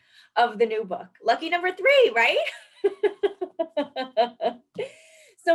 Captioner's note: laughs